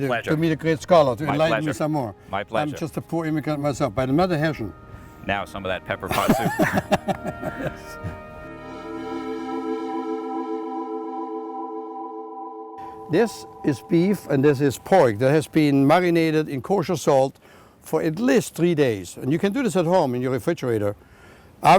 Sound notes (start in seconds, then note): 6.1 laughter